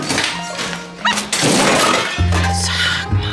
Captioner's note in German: Es poltert